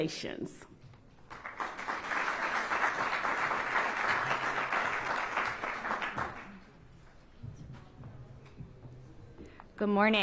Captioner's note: applause